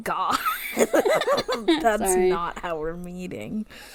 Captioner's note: laughs